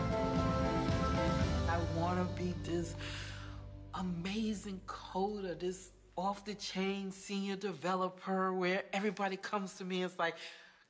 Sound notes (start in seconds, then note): none